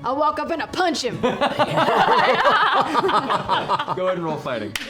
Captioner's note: laughter